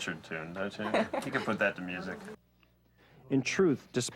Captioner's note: chuckling